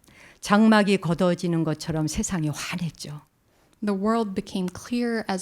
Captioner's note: speaking in Korean